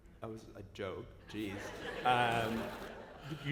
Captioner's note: laughter